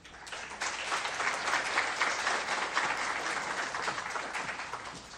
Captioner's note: crowd applauds